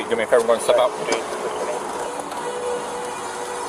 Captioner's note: radio chatter